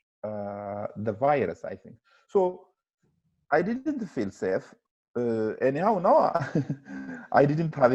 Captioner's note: he laughs